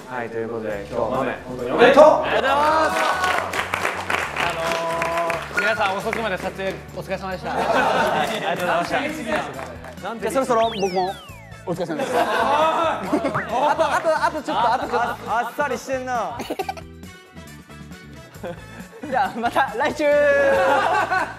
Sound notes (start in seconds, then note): 16.3 hahaha